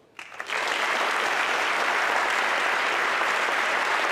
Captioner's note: audience clapping